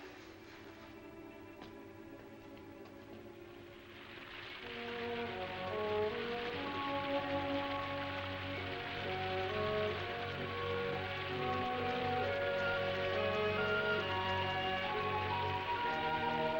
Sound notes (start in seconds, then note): 3.9 light music; 3.9 rain pouring